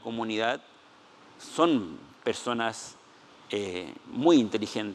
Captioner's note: speaking Spanish